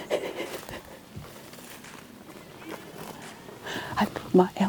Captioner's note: chuckles